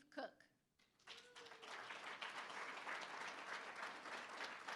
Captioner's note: applause